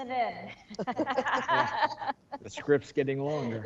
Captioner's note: board laughing